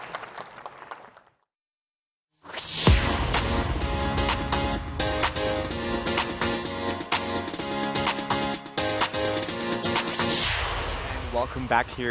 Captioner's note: applause